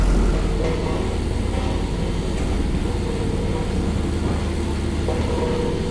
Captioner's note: vibration